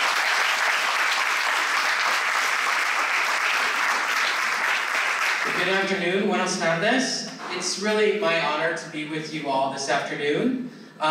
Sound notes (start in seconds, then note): 2.1 applause